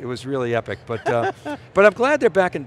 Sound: laughing

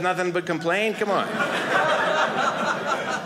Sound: audience laughing

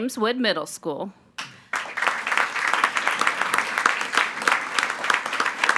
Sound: attendees applauding

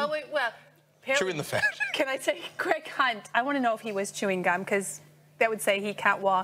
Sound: laughs

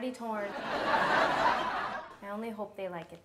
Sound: audience laughs

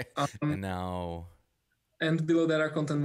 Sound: laughs

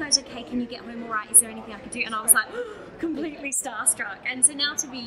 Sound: gasps

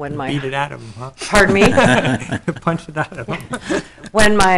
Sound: laughing

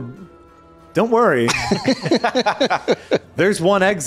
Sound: laughing

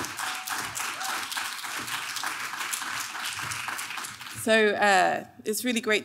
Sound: clapping; applauds

